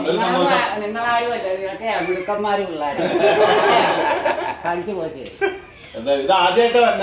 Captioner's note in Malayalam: പൊട്ടിച്ചിരി